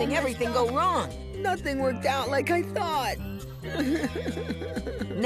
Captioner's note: crying